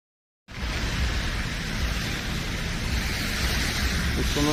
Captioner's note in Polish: odgłosy wody